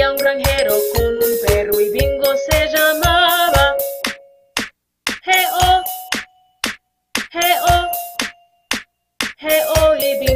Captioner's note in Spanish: clap